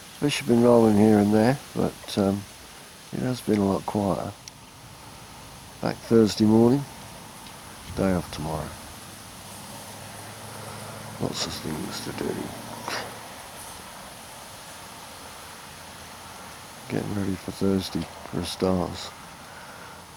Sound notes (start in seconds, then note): 11.8 laughs